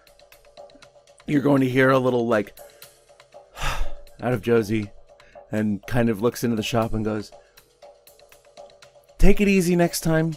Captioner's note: sighs